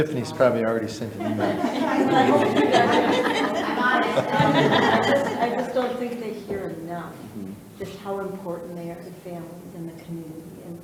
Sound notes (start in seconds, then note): 1.1 people laughing